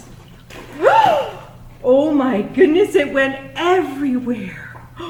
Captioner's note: loud gasp